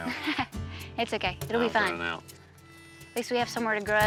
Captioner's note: chuckles